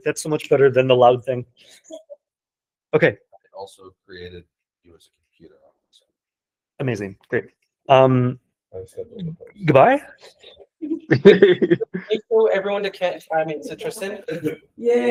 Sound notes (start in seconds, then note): 10.8 laughing